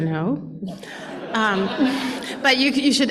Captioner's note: laughter